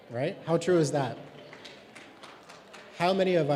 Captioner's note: clapping